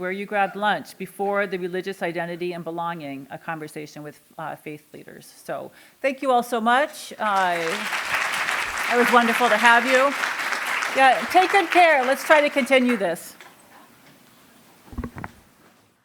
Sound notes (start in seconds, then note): 7.2 applause